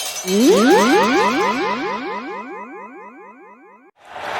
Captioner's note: wind whooshing